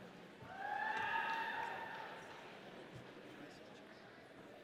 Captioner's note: audience cheering